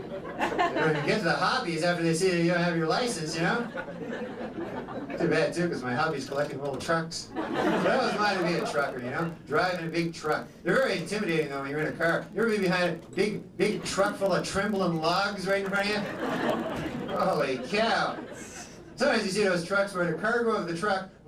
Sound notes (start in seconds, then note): 7.3 laughter